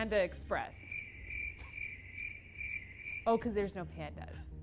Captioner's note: crickets